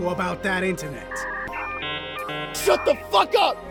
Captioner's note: dial-up noises